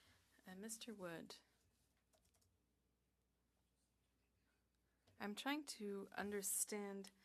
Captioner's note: speaking French